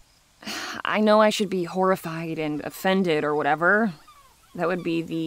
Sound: sighs

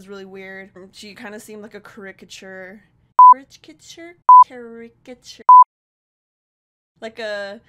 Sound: beep; beep

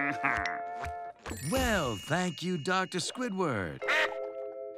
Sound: laughs; in a deeper voice

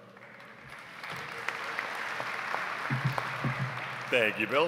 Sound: audience applauds

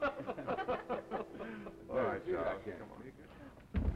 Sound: laughter, gay conversation

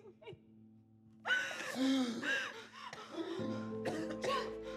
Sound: Jeff gasping

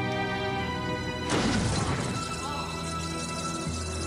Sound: explosion, then screams

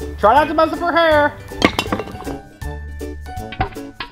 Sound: crashing

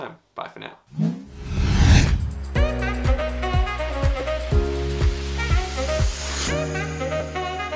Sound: air whooshing; upbeat music

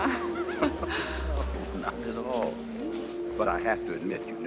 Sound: laughing

